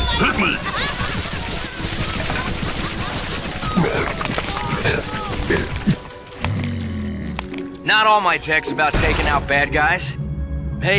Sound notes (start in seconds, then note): 1.6 chomps